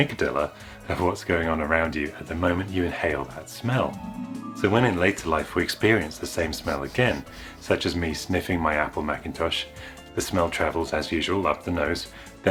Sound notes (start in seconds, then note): 3.7 magical Warbling Sound Effect; 6.5 sniffing